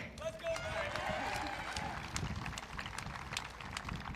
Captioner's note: audience cheering